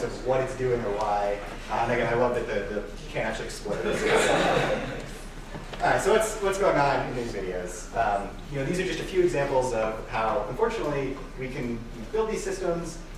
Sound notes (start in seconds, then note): 3.8 laughing